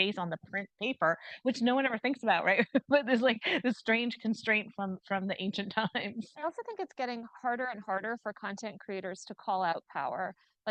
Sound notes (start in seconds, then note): 2.7 chuckles; 6.2 chuckles